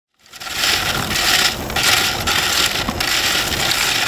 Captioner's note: mussels scratching